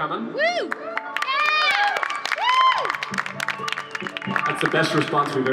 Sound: applause

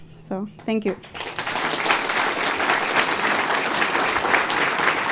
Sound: applause

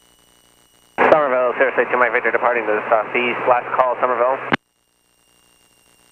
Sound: radio voice muffled by feedback

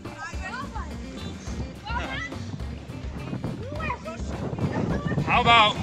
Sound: children playing in the distance

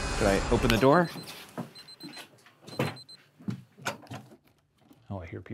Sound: ominous music intensifies; footsteps treading; alarm beeping; door handle rattling

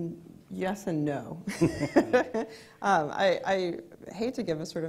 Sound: laughs

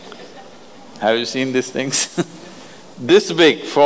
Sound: laughs

